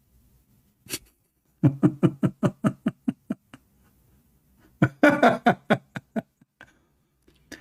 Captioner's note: Ketawa